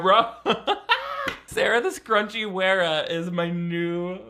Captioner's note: laughs